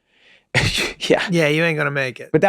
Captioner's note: laughing